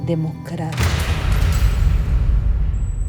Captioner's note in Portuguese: som de explosão